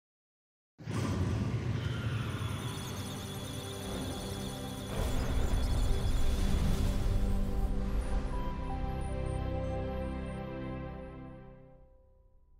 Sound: electronic Sounds of Data; musical Tones

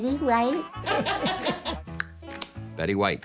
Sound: laughter

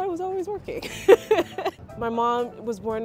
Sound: laughs

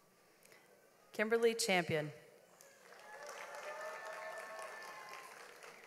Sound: audience applauds

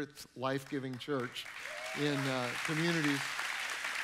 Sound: audience clapping

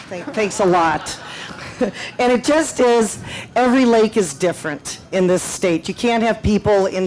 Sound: laughter

